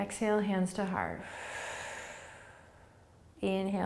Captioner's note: exhaling